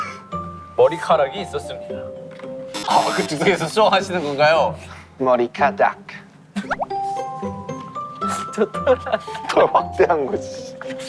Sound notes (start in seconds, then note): 6.3 laughing